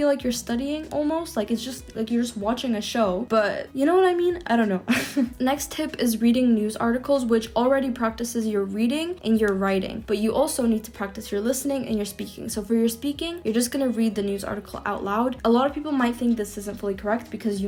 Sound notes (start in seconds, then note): 4.8 chuckles